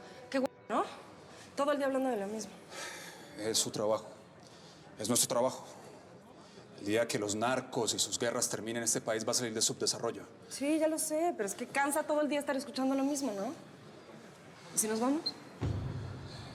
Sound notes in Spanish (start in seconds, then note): 2.6 exhala